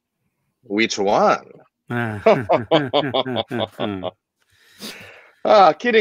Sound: laughing

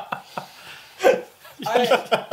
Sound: laughs

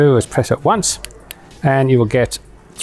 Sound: button clicks

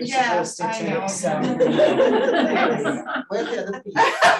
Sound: audience laughing

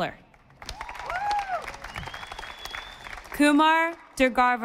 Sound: audience applauding

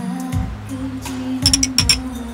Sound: clink!

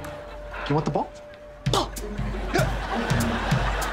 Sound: grunting

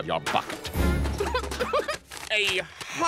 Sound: giggling

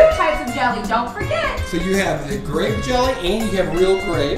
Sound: voiceover

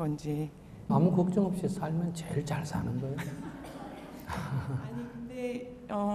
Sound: audience Laughter

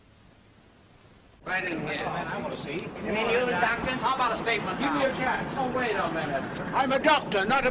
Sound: reporters clamoring for a statement

